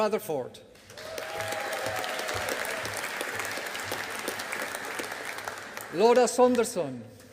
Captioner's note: audience applauding